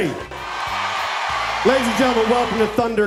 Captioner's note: audience cheering